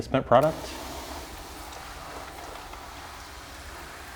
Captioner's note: hissing